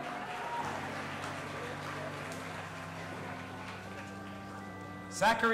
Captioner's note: audience applauding and cheering